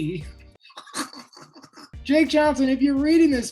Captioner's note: laughs